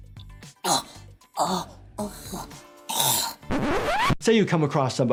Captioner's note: IShowSpeed gulping for air